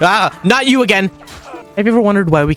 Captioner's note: death noises